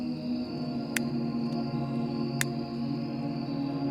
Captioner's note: lighter clicking on